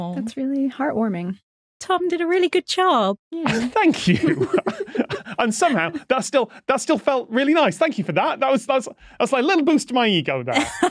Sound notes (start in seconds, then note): 3.4 giggle